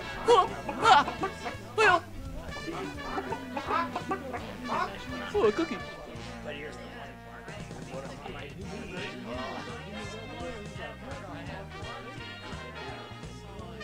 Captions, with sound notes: "HWUH" "HAH" "HYOH" (Mutters) "Ooh a cookie."